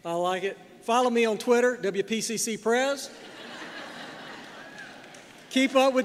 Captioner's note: laughter